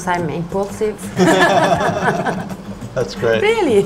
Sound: all laugh

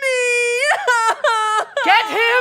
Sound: happy sobbing

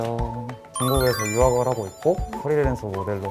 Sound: Korean

